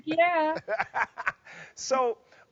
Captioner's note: laughing